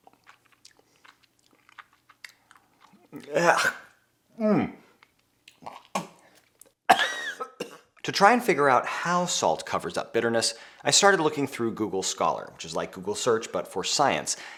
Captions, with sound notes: (liquid slurping) Ech, ew. (spitting) (coughing) To try and figure out how salt covers up bitterness, I started looking through Google Scholar, which is like Google search but for science.